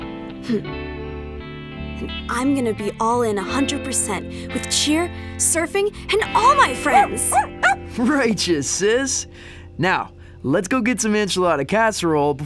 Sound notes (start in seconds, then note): 7.2 Murph barks